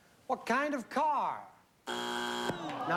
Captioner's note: buzzer